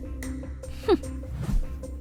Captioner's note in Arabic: شخير